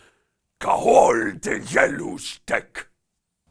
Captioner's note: alien sounds